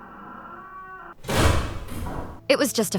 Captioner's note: door slams shut